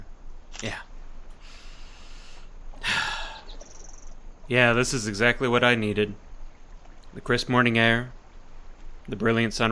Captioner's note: deep inhale